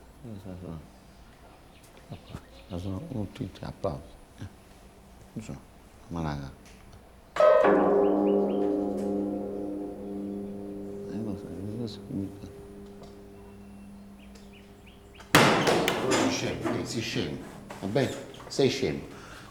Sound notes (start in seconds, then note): 7.2 presses all the piano keys; 11.2 Omero mumbles annoyed; 15.2 loud bang